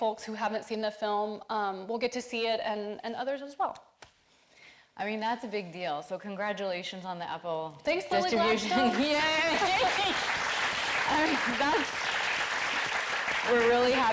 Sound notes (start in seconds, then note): 8.2 audience cheering